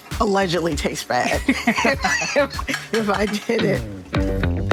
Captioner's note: laughs